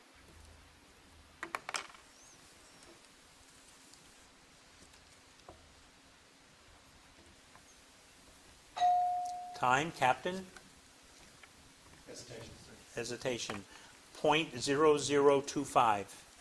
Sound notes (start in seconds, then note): 8.8 bell dinging